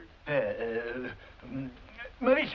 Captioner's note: stammers